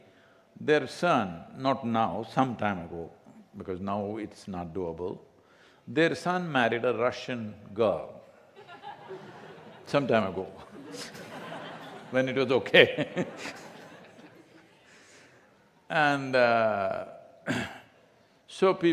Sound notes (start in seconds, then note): 10.5 laughter